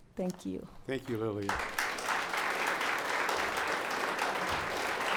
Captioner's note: audience applauds